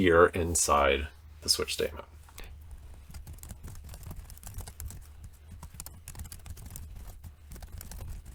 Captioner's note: typing